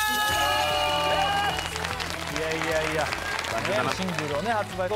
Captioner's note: clapping